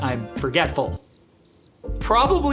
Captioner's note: crickets chirping